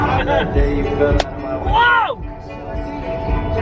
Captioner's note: rock hits windshield